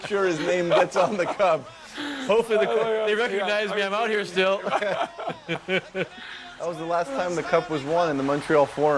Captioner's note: laughter